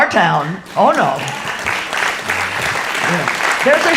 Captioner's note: audience applauds